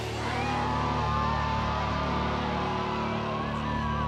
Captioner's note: shouting